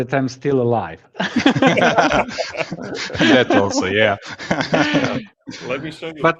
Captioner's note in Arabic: ضحك